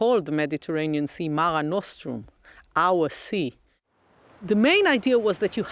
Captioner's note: speaks in Latin